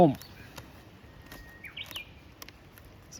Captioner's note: the bush warbler sings